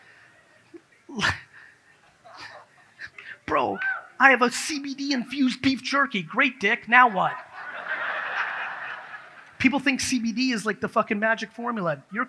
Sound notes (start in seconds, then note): 3.5 laughs; 7.0 audience laughs